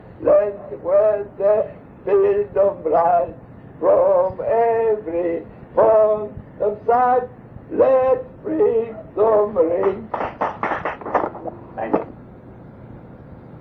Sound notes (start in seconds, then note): 9.8 claps